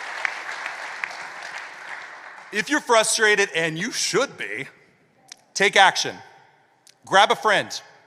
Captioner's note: applause